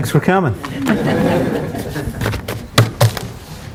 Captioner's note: laughter